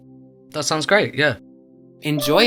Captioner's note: voiceover